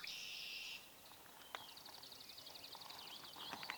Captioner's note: birds singing